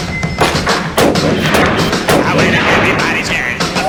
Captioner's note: rock music; gunshot; rock music